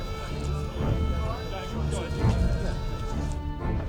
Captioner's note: indistinct chatter